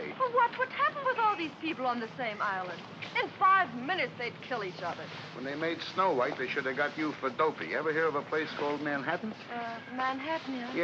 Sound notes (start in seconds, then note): none